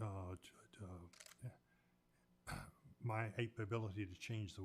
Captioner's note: camera shutter clicks